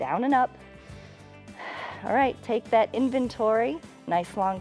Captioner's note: inhales and exhales